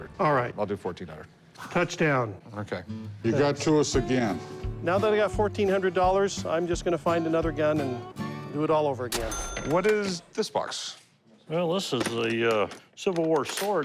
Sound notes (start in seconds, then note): 9.1 cash register chime